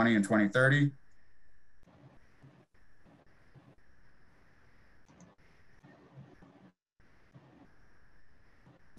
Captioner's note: silence